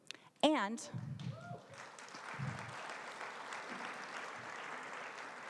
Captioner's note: applause